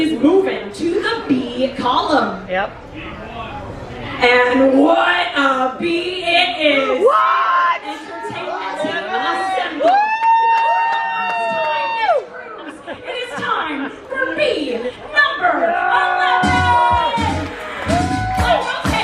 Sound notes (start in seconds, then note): 10.7 players cheer; 16.4 upbeat music; 18.7 players cheer